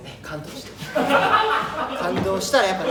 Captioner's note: all laugh